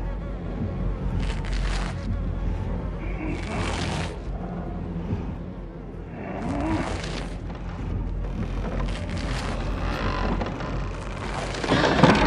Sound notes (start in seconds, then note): 8.0 squeaks